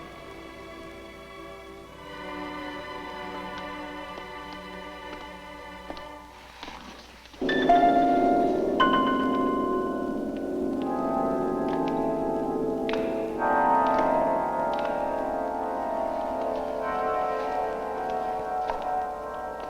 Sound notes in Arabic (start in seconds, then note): 0.2 موسيقى هادئة; 6.1 خطوات قوية; 6.1 موسيقى غريبة